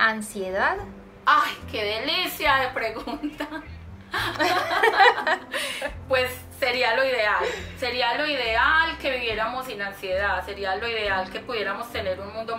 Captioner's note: laughs